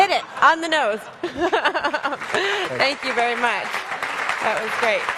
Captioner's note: audience applauds